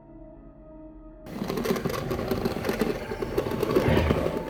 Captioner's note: sinister music; claws scraping; Brad growling